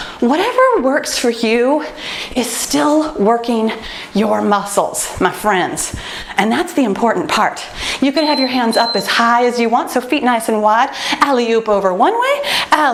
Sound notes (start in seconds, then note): 8.1 timer beeps